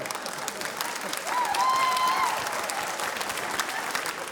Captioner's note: cheering, applause